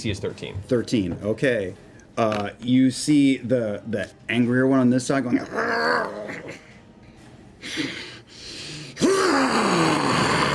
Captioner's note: growls, huffs, growls louder